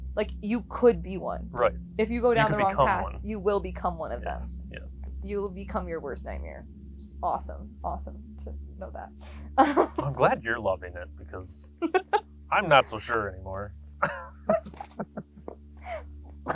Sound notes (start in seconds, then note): 9.5 laughs; 14.0 both laughing